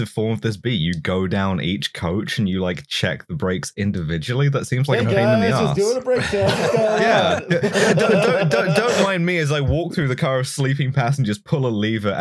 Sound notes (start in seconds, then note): 6.1 laughter